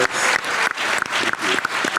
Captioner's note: audience clapping